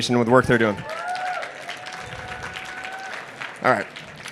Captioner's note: applause